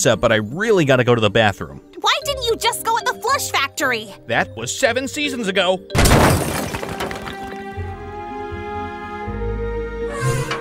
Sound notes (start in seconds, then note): 5.9 brick wall smashing; 7.2 upbeat calm music